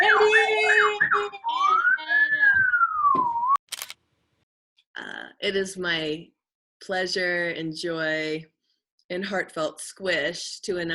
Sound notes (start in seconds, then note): 3.7 camera clicking